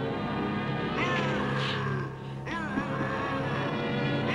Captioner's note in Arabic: هدير بوبوكا